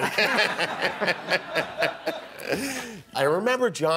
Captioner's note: laughing